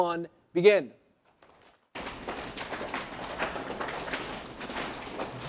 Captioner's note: audience slapping legs